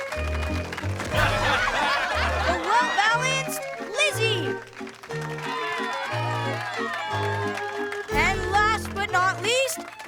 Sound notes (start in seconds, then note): 0.3 cheering, applauding; 3.4 whistling